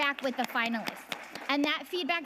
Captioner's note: audience applauding